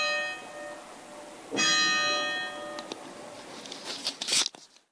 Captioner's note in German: Glockengeläut